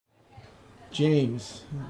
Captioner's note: people chattering